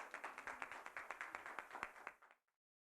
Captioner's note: applause